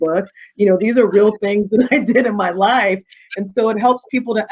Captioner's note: chuckling